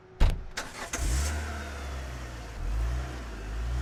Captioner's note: car engine revs